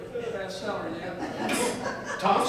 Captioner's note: audience chuckles